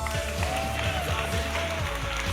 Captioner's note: audience clapping